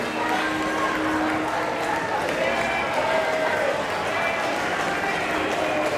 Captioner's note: applause